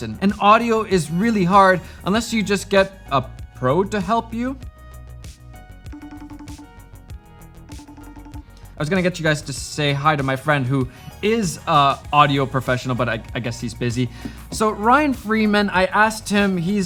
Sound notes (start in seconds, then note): 5.9 phone dialing